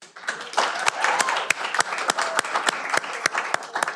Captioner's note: cheering